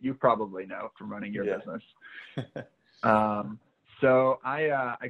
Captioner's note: laughing